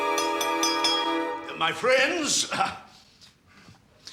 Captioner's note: clears throat